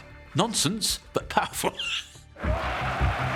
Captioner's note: cheering